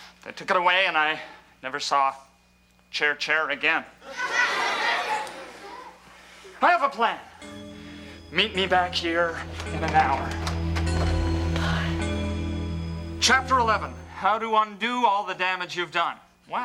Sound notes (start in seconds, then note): 4.0 audience laughs; 7.5 tense music